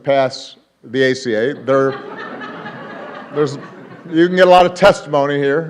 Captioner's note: laughter